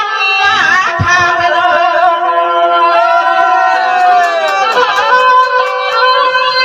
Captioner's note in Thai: ปรบมือ